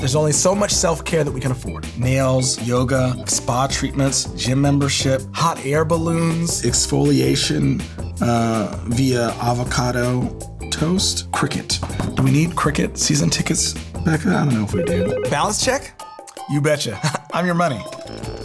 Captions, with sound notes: There's only so much self care that we can afford. Nails, yoga, spa treatments, gym membership, hot air balloons... Exfoliation... uh, via avocado toast? Cricket. Do we need cricket season tickets, Becca? I don't know if we do. (phone rings) Balance check? You betcha. I'm your money.